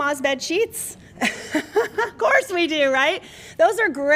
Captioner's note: laughter